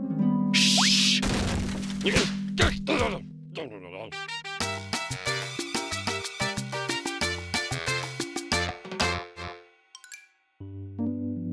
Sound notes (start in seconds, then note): 1.2 crashing noise; 2.6 grumbling; 4.1 Latin music